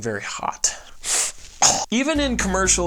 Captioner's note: sniffs; wretches loudly